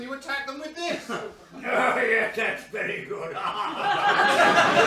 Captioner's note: laughs